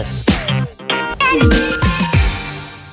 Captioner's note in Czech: zvuk ukončení schůzky